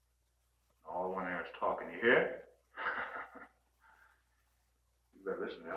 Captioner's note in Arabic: يضحك